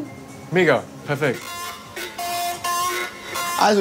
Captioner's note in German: Verzerrte Klänge